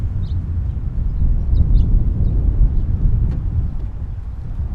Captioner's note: wind howling